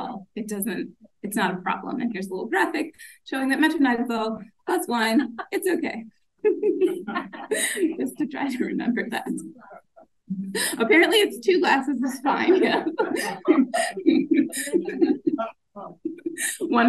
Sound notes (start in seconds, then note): 6.4 laughs; 12.1 audience laughing; 12.4 laughing